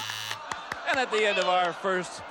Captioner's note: audience groaning